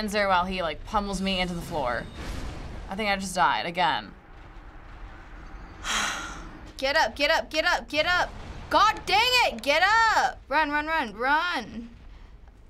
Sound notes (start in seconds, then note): 5.8 sighs deeply